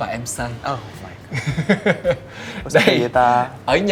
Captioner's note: laugh